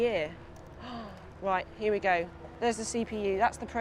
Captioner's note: gasps